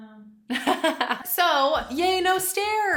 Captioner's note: laughs